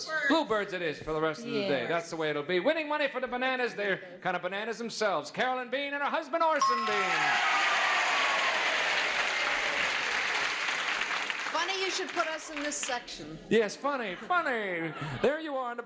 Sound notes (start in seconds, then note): 6.7 applause